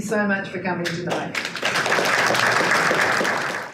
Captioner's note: audience applause